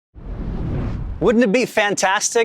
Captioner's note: air whooshing